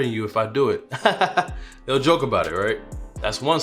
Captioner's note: laughing